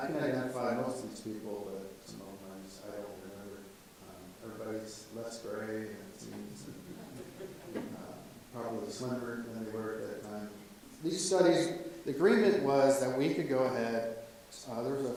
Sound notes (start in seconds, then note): 6.6 audience laughs